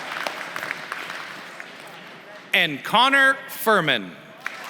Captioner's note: applause; applause